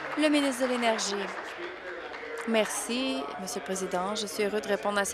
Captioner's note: applause